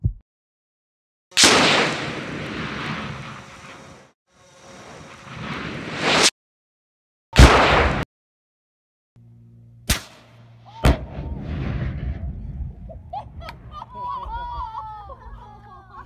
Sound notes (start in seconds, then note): 1.4 explosion; 7.4 explosion; 10.8 explosion; 12.9 laughing